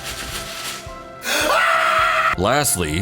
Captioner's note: screams